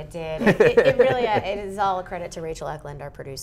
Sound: laughs

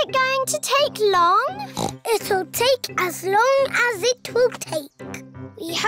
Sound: oinks

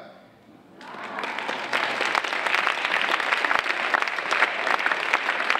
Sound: audience applauding

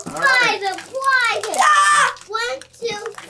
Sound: yelling

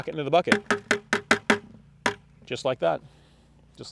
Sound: loud tapping

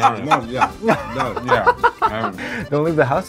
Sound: all laughing

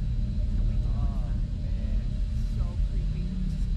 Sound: low drone hum continues

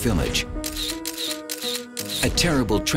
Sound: camera clicking

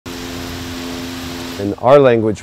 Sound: water spraying

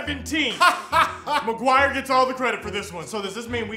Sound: laughs

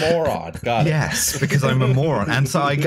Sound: chuckles

